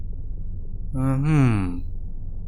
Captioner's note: minecraft_villager_noise.wav